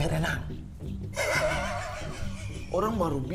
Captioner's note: laughing cynically